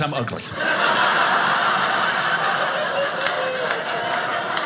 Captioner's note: audience laughing